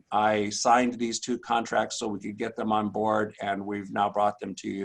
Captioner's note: none